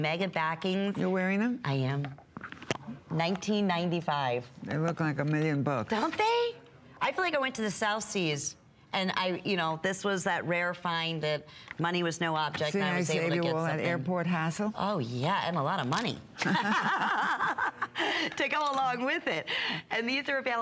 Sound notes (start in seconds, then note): 16.4 laughter